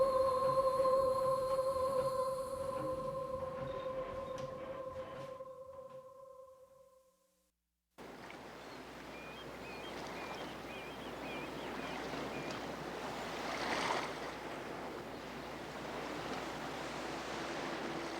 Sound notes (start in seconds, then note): 9.6 birds chirping; 9.6 waves lapping